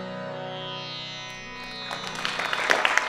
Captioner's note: applause